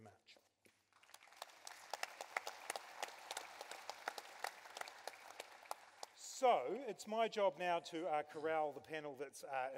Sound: applause as takes a seat with the panel

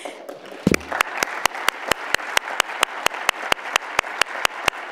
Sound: audience applauds

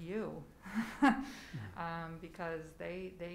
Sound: laughs

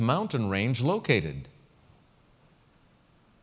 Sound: pause

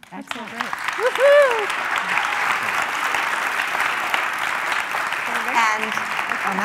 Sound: applause

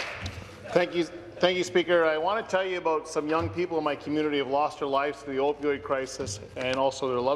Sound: some Applause

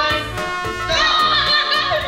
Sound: horn sounds; laughs

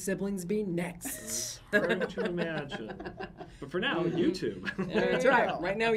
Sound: laughs

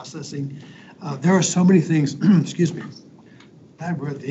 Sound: coughs

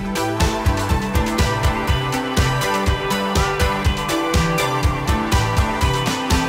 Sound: crowd applauds and cheers loudly

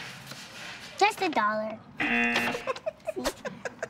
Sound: chuckles

